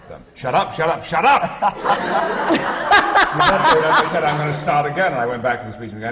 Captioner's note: laughter